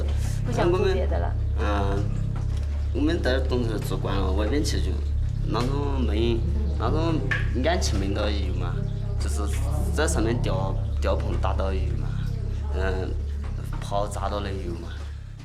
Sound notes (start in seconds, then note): 0.0 Chinese spoken audio